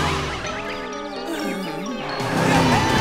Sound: groaning

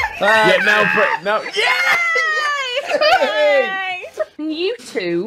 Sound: laughter; cheering

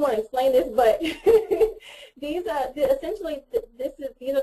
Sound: laughs

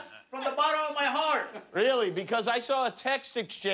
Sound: laughter

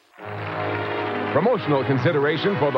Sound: audience clapping

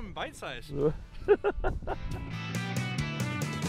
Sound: laughing; blues rock music

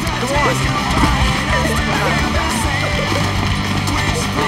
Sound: group giggling

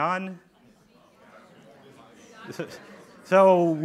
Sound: audience talking

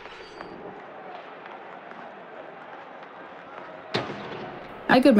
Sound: slap of a hockey puck, chatter of hockey fans

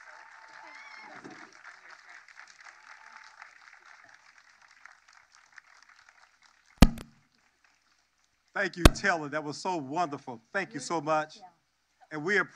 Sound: cheers and applause

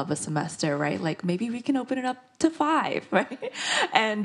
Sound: laughs

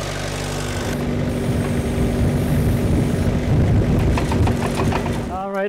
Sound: wind susurrating

